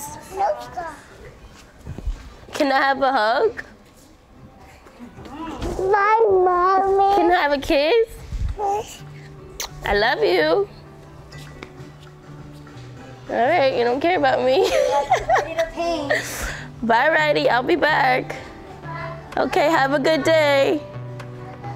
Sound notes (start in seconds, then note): 14.6 laughs